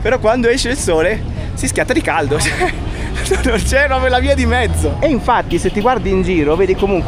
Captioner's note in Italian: risate